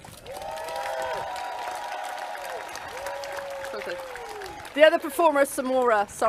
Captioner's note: clapping and cheering